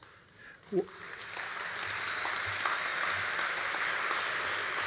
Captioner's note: all applauding